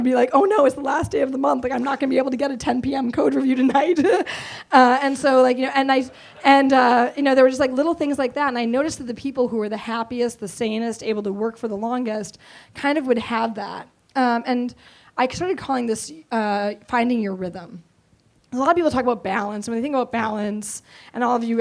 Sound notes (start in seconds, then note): 5.0 laughs